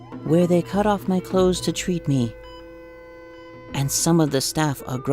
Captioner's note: music, ECG beeping